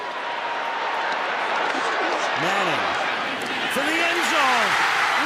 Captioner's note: cheering